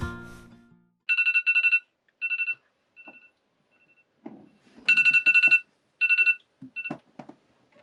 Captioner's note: phone alarm